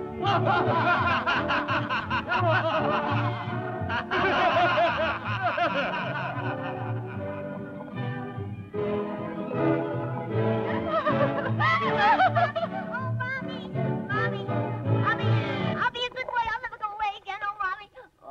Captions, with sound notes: (Laughter) (Crying) Mommy, oh mommy! I'll be a good boy. I'll never go away again. Oh mommy!